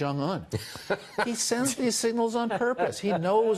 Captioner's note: laughter